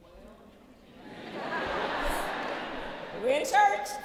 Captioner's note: laughter